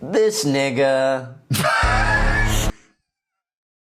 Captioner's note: laughs